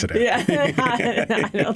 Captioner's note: laughter